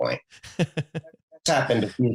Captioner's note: laughs